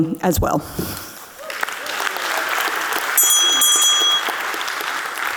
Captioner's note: audience cheering